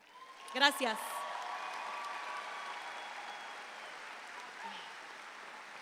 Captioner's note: audience applauding